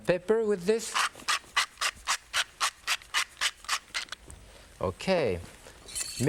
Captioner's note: pepper grinding